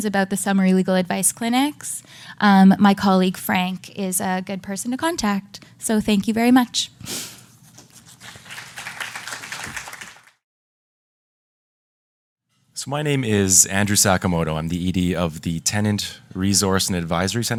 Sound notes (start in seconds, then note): 8.1 applause